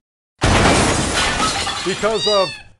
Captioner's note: crash